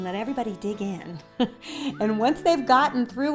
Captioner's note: laughing